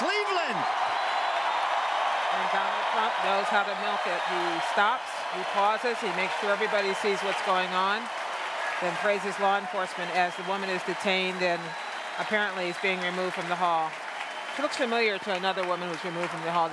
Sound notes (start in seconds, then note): 6.9 cheering and Applause